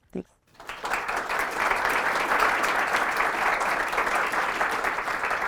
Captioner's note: applause